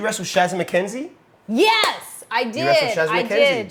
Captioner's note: claps